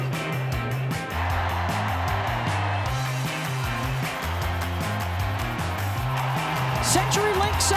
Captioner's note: upbeat rock music; cheering